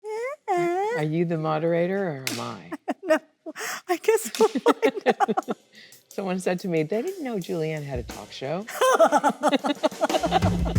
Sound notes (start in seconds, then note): 3.4 Annette laughs; 3.5 laughs; 8.7 both laughing; 10.5 rhythmic jazzy music